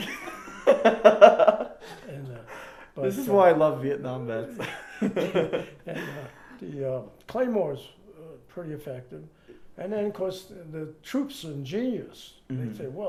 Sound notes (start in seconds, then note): 0.3 laughing; 4.5 both laugh